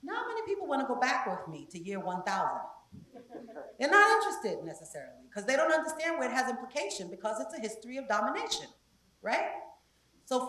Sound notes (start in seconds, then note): 3.0 laugh